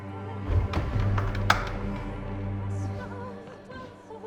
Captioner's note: door thuds; eerie music continues